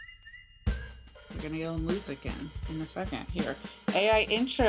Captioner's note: chatter